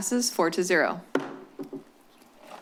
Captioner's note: gavel tap